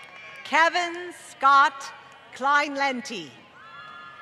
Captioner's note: applause